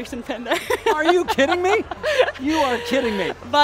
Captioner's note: laughing